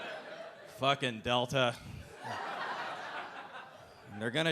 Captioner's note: audience laughing